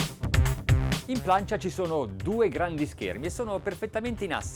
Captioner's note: electronic music; man speaks in foreign language